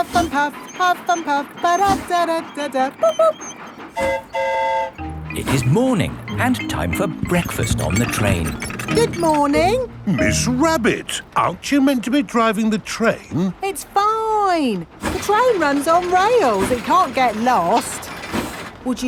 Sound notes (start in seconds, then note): 3.9 train whistle toots; 3.9 mimics train whistle